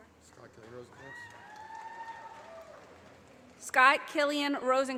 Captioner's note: audience applauding